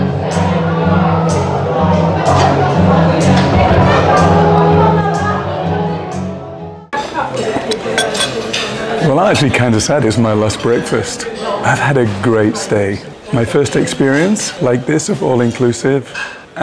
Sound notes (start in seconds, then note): 7.5 cup clinks